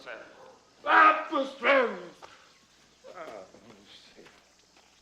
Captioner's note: speaking in illyrian language